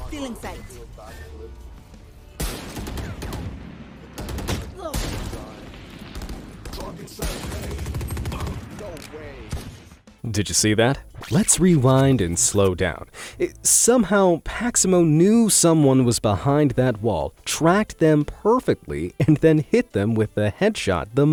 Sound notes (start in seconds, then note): 2.4 gunfire blasts